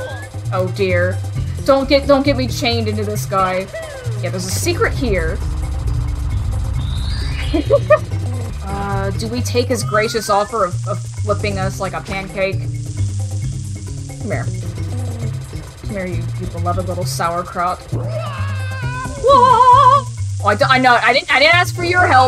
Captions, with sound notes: Oh dear. Don't get- don't get me chained into this guy. Yeah, there's a secret here. [laughing] Uhh, do we take his gracious offer of flipping us like a pancake? C'mere. C'mere you, you beloved little sauerkraut. WaAaAaAh! I- d'oh! I, nah! I didn't- I didn't ask for your help!